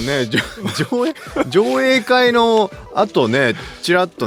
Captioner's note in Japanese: 笑い